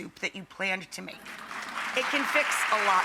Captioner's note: audience applauding